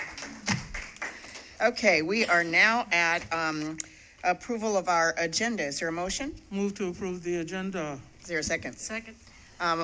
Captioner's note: applause